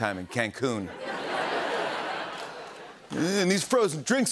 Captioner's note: laughter